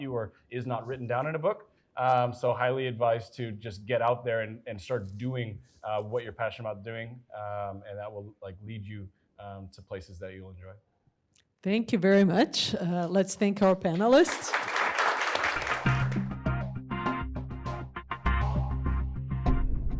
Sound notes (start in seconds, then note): 13.7 audience applauding; 16.4 calm electronic music